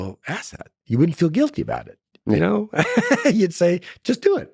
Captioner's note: laughs